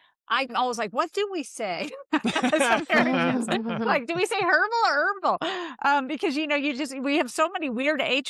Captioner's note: laughs